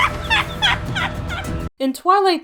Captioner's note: laughter